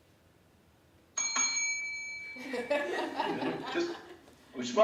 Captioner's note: bell dings; laughter